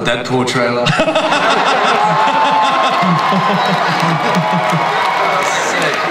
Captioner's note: everyone laughs; audience applauds